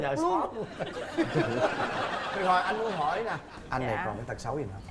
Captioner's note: laughing